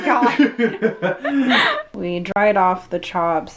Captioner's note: both laugh